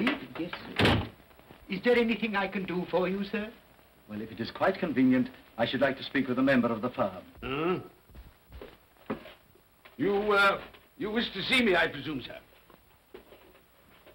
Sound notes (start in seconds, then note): 0.0 door closes; 7.4 Scrooge grunts